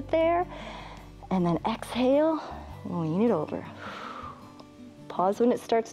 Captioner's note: exhales